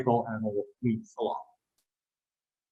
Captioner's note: audio distortion